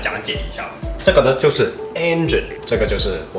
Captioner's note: engine